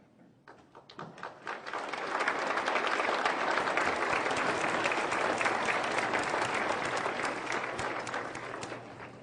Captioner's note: applause